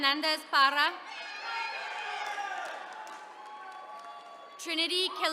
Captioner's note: attendees cheering